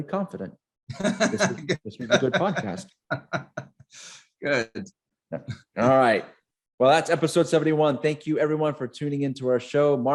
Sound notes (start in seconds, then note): 1.0 laughing